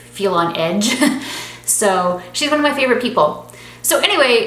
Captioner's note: laughing